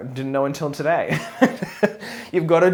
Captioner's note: laughs